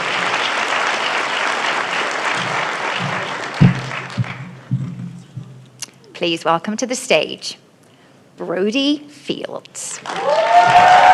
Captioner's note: applause